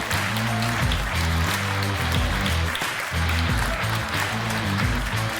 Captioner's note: hard rock music; audience cheering and applauding